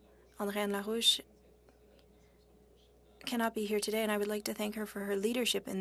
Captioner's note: speaking French